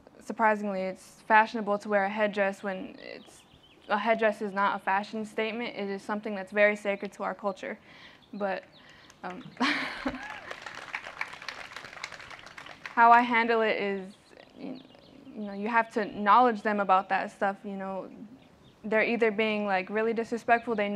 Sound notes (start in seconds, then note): 9.0 applause